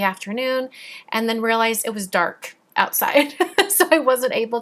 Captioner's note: laughs